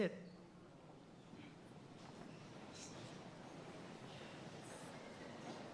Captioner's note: audience chattering